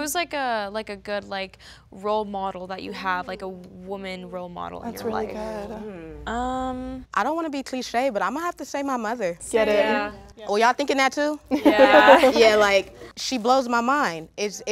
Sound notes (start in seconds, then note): 9.5 many agreeing; 11.5 laughter